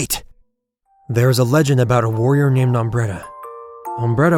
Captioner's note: voice over